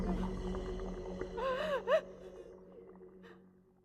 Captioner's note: hissing fades